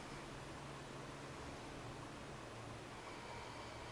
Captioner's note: breathing sounds